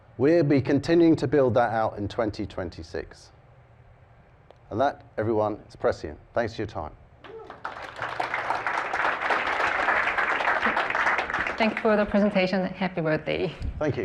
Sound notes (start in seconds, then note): 7.2 applause